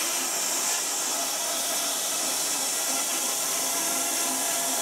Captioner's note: saw whirring